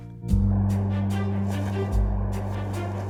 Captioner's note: wind blowing; tarp flapping